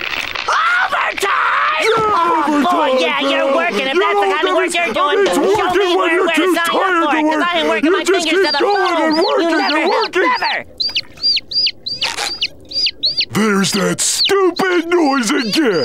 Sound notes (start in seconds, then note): 1.5 arguing; 8.6 arguing, chirping; 10.4 chirping